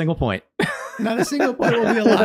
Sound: laughing

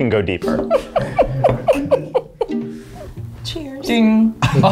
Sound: laughing

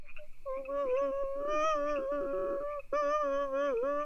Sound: crying

